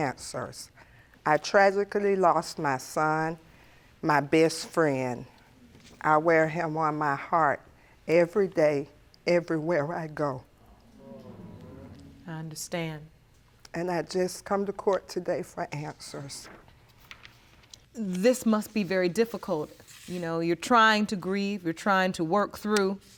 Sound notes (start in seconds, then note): 9.8 audience exclaiming sympathetically